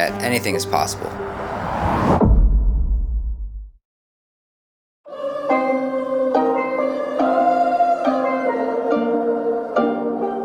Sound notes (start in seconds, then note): 0.9 echoing whoosh; 1.6 soft boom